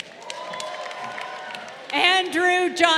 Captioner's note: crowd cheering